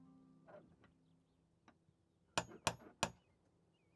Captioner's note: knock, knock, knock